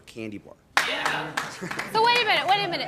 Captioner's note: scattered applause